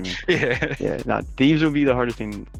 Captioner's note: laughs